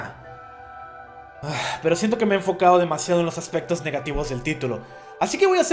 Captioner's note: sigh